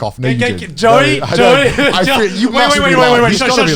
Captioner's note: laughs